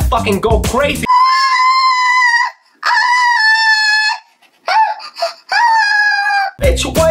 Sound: moaning in a high pitch

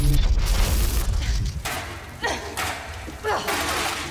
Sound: francesca grunts

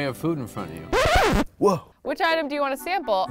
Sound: record scratch

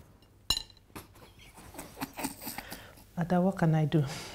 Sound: laughs

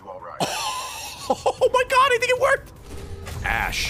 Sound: laughs

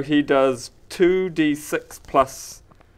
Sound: none

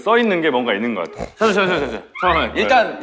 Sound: sniffing

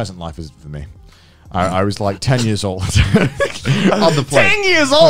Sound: laughing

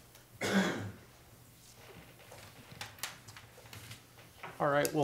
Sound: man coughing

